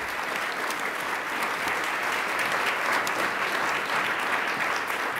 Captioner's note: attendees applauding